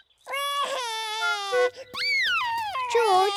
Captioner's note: laughs; wailing